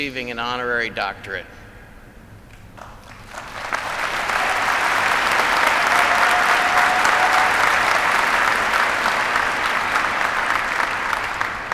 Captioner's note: applause